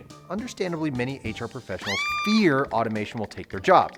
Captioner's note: woman screams